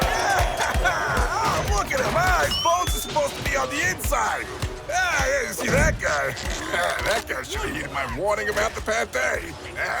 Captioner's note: laughing at the beatdown